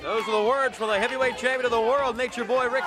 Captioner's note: crowd cheering